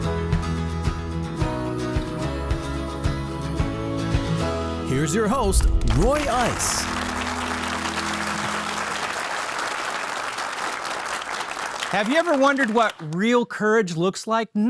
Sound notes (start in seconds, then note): 0.3 bright music; 5.4 audience applauding